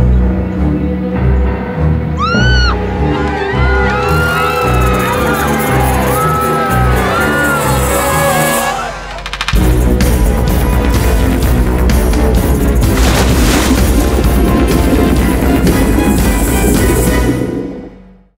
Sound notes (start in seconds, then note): 0.3 ominous music; 2.1 screams